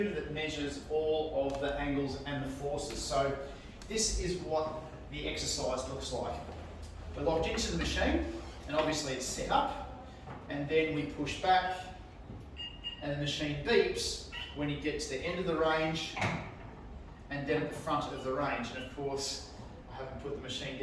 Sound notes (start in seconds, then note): 12.5 machine beeps